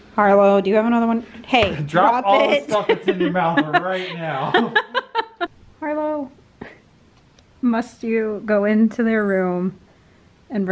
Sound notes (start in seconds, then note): 4.6 laughing